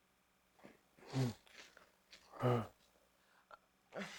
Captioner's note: groans